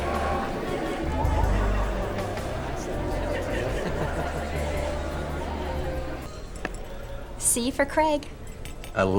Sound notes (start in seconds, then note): 1.0 people laughing